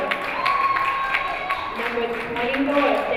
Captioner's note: crowd cheering